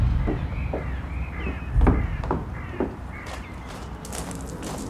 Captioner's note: crow cawing